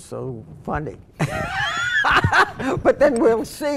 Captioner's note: laughing